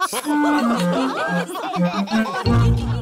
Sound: laughter

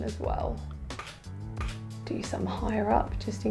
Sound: camera clicking

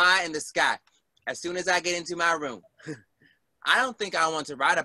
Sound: chuckles

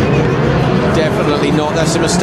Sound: car engine revving

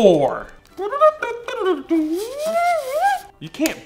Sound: imitating trumpet sounds

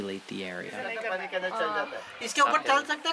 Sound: locals talking

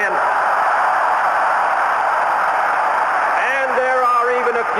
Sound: cheering

